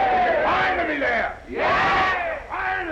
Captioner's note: crowd cheering